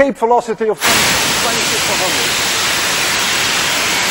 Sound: loud whooshing

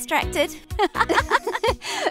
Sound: both girls laugh

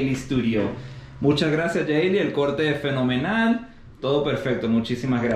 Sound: speaking in Spanish

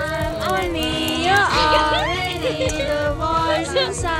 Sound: giggling

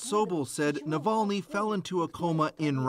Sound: speaking Foreign Language

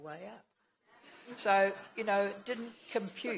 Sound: laughing

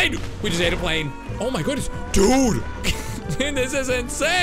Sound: laughs

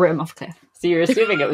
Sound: laughs

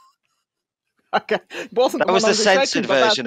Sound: laughs

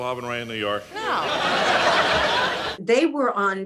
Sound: audience laughing

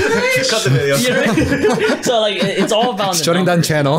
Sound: boys laughing

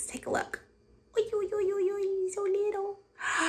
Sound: cooing

